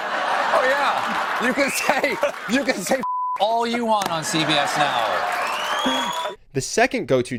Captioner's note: audience laughs